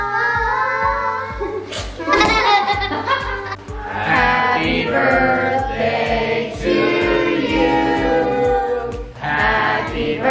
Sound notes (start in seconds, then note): 1.8 children laughing